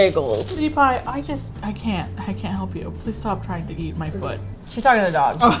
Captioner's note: with disappointment